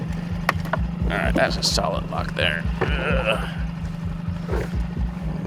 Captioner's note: grunts